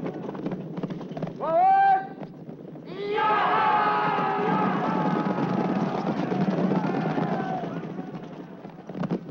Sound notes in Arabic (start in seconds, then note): 3.0 صرخة المعركة القرطاجية; 3.9 حوافر تدق